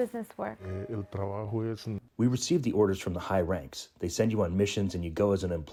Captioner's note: through translator